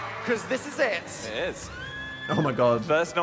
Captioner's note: audience cheering